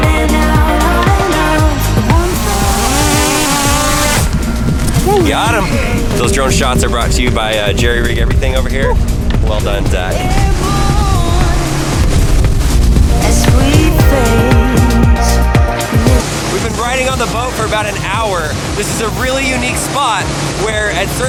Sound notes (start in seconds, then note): 2.9 drone humming